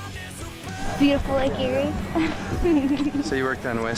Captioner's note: laughing